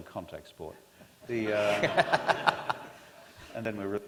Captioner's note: laughter